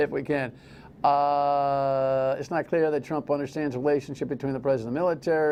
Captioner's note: sigh